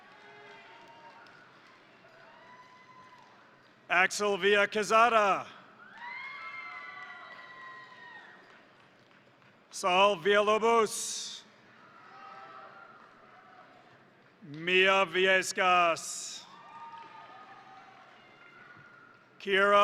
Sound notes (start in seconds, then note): 0.0 crowd cheering; 0.0 crowd applauding; 5.7 crowd cheering; 5.8 crowd applauding; 11.6 crowd applauding; 11.7 crowd cheering; 16.4 crowd applauding; 16.7 crowd cheering